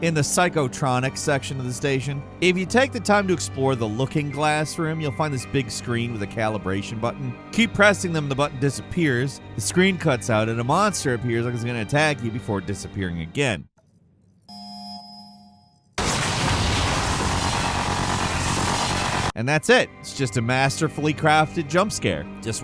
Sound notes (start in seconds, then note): 15.1 bell chiming; 16.0 tense music